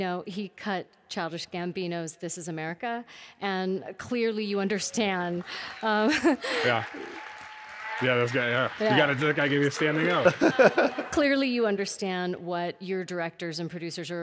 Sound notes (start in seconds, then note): 5.1 audience claps and cheers; 6.0 laughs